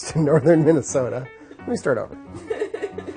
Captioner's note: chuckles